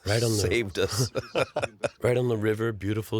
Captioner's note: laughs